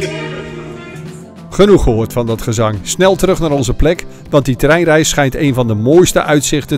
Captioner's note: voiceover